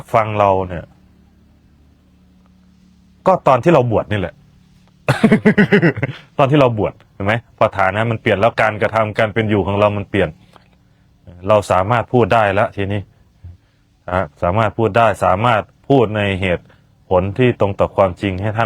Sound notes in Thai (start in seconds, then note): 5.0 เสียงหัวเราะ